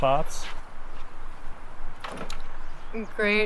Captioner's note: water ripples faintly